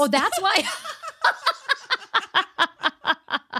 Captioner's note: laughing